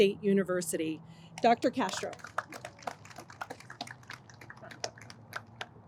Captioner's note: audience applauds